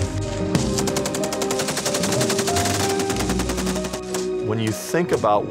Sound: gunfire

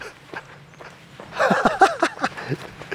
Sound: laughter

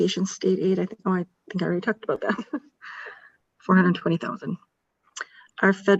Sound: chuckles

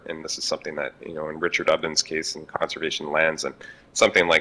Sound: mutters

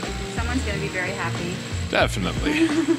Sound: laughs

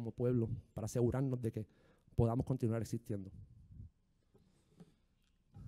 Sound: speaking in foreign language

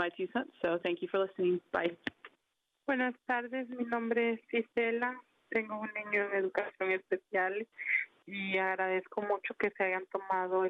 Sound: speaking spanish

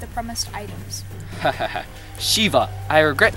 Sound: laughs

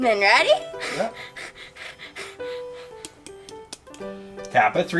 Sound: assistant chuckles

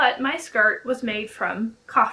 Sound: none

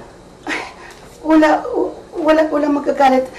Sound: scoffs

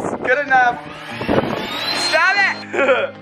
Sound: leaf blower whirring; laughing

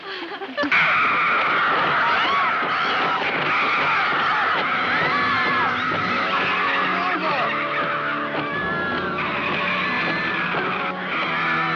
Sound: pterodactyl squawking, water splashing, and people screaming

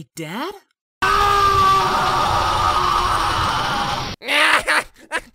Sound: Bardock screaming; laughing

